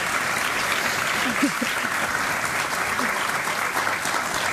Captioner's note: audience clapping